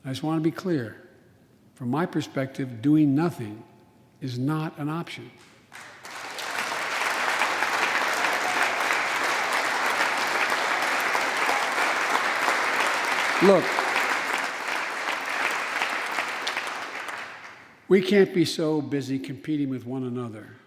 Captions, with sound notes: I just want to be clear, from my perspective, doing nothing is not an option. (applause) Look, we can't be so busy competing with one another